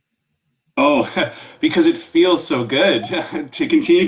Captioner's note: chuckle